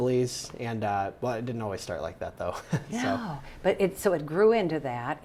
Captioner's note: laughs